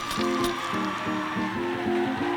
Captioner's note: crowd cheering